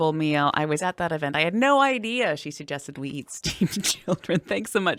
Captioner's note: laughing